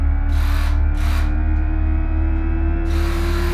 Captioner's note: spray gun noise